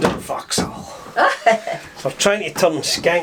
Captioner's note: Janice laughs